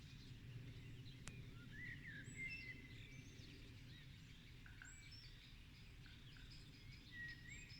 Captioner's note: birdsong